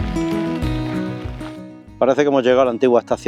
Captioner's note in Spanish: aplausos